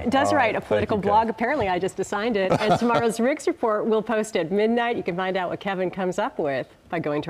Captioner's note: laughter